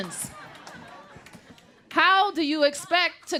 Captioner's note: laughter